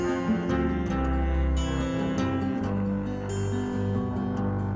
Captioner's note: melodic guitar music; melodic humming